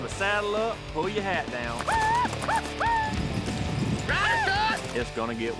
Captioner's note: shouting